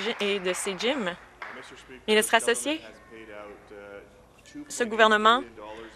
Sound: some Applause

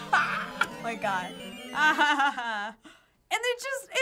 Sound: laughing; gasping

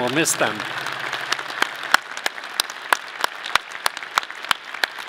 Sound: audience clapping

